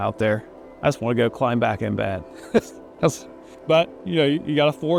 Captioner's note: laughs